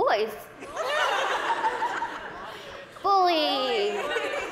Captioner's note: laughter